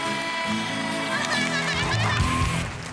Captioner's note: laughs